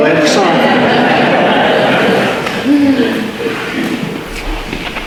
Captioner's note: audience laughter